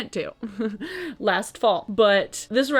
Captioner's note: laughing